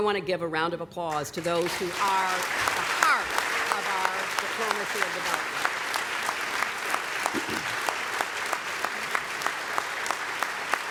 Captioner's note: applause